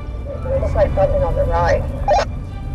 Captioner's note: on walkie-talkie